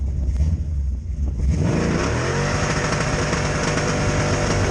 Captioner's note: car engine roaring